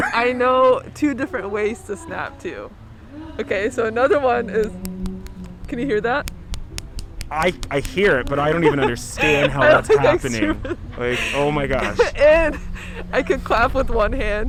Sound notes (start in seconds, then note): 4.6 fingers snapping